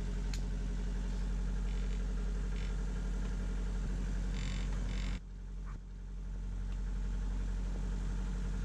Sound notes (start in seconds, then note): 2.0 buzzing